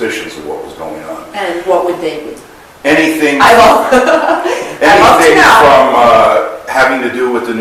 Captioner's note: laughs